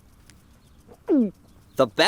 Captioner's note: gulps